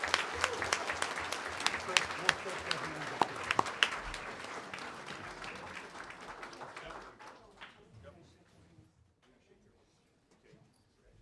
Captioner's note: applause